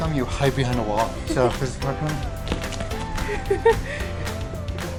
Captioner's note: laughter